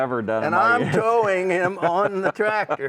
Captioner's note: laughs